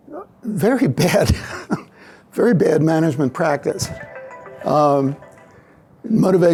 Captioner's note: laughs